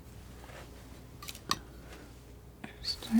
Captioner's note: scratching